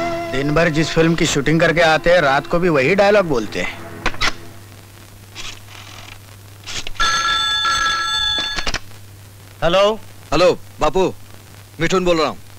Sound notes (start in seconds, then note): 6.9 phone ringing